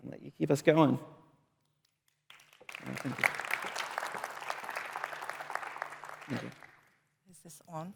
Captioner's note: applause